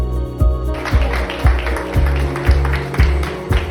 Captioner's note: applause